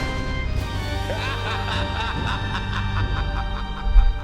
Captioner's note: creepy laughter